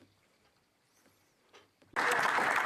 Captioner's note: speaking French